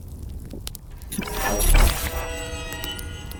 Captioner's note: gauges Sound Boot Up